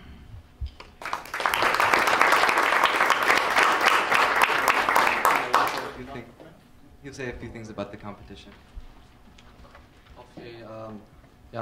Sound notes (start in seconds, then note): 0.9 applause; 4.6 speaking away from mic